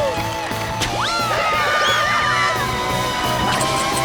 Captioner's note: screaming